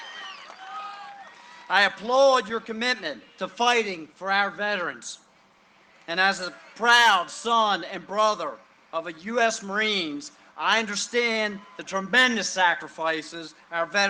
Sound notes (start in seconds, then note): 5.8 cheering and applause